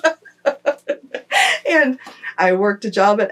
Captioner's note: laughter